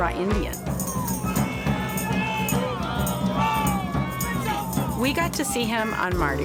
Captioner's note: festival cheering and music